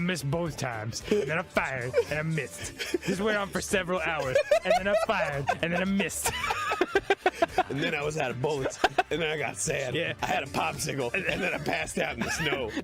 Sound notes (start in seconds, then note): 2.6 Arin keeps chuckling; 4.2 Arin erupts in laughter; 7.0 chuckles with Arin